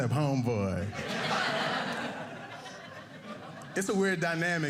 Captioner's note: audience laughing